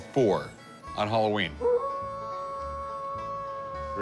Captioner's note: wolf howls